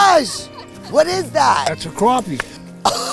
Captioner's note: speaker laughs